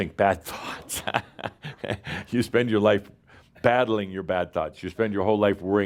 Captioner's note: laughs